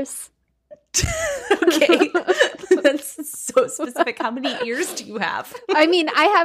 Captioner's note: laughs